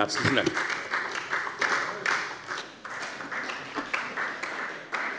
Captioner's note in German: Beifall bei der FDP und bei Abgeordneten der SPD